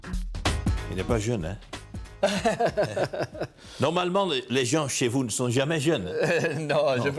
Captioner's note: laughs